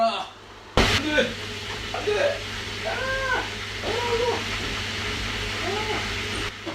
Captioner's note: water flooding